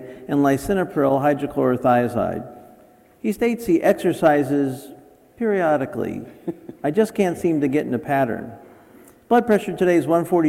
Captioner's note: chuckle